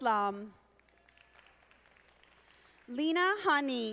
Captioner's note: audience applauding